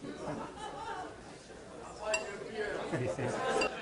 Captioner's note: audience laughing and conversing